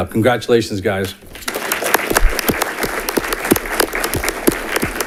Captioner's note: audience clapping